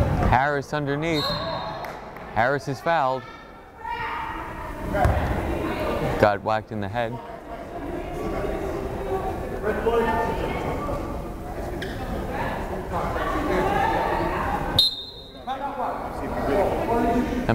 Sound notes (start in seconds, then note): 1.1 whistle blows; 8.0 crowd chattering; 14.7 whistle blows